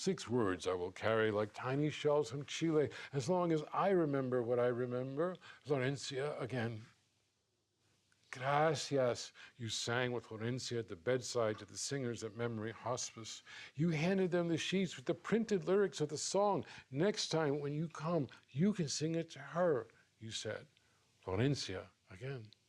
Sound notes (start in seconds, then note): none